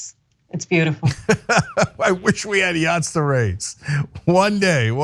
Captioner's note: laugh